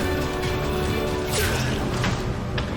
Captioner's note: revenants growling